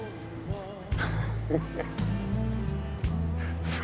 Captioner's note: laughing